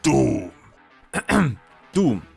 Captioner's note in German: räuspern